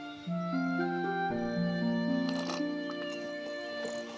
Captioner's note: sipping